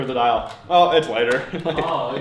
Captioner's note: laughing